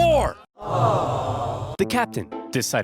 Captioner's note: crowd sighing